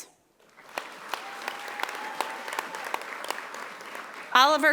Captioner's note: audience applauding